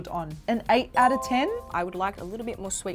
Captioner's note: bell chiming